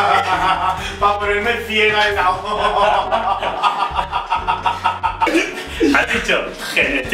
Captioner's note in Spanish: risas